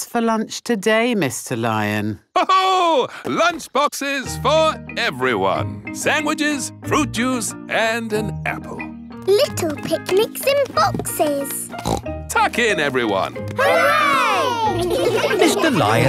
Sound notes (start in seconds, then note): 2.3 laughs; 11.7 snorts